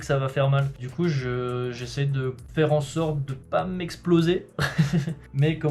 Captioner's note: haha